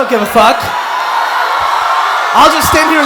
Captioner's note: attendees applauding and cheering